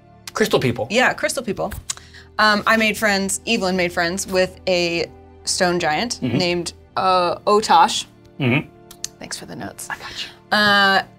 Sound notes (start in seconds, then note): 9.8 whispering